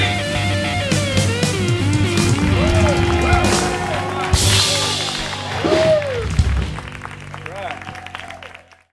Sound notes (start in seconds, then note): 4.8 applause